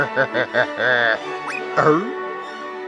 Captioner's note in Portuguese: Risada malígna de orangutango; zip